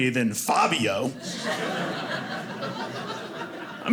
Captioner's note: audience laughing